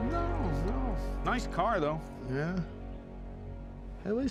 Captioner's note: scottish accent